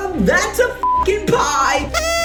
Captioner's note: beep; noise maker